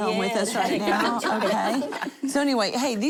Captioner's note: laughter